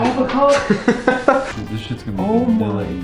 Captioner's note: chuckles